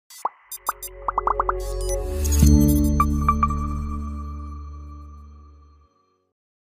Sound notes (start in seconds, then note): 0.1 bright digital music; 1.1 bubbles popping